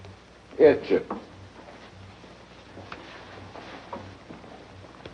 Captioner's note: speaks foreign language